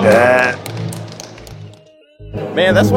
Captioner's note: applause